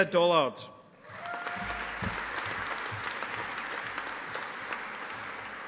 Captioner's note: audience applauding